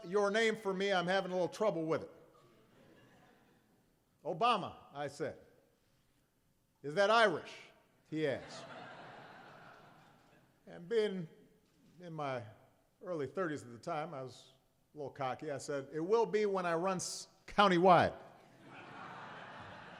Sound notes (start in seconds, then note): 9.9 laughter